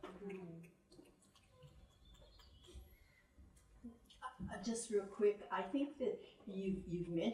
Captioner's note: snaps